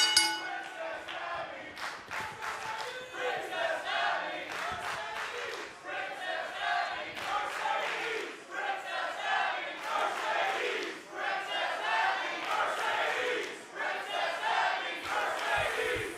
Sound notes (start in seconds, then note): 0.0 bell ringing; 2.3 fans chanting